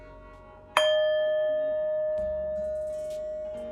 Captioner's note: bowl dings